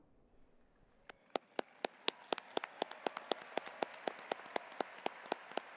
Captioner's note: audience applauding